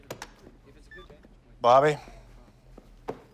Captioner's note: beeps